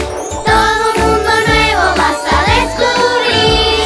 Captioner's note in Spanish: none